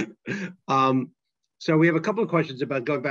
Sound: laughter

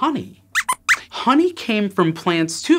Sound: squeaks squeaks

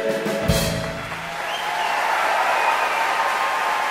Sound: applause

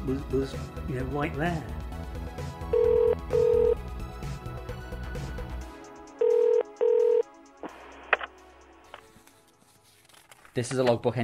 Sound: phone rings

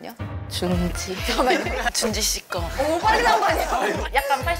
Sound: the judges shouted with one voice

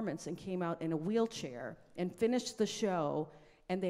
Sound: none

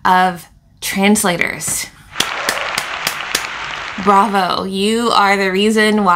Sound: clapping audience

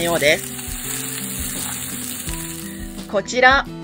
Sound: hissing

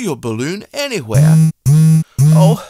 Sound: phone vibrate

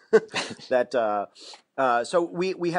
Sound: chuckle

